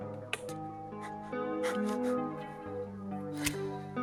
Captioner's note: deep breaths